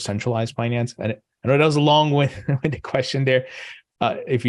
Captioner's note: laughing